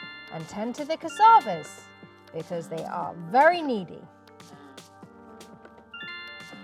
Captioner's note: notification sound